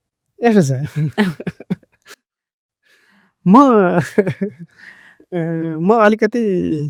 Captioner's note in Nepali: हास्य